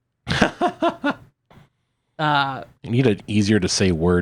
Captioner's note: laughs